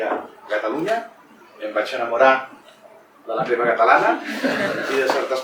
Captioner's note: laughs